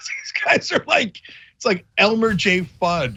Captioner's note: laugh